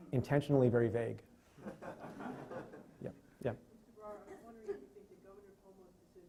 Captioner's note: laughing